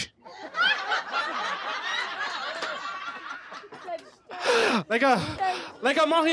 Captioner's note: laughter